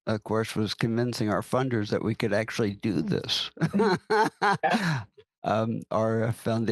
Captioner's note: laughs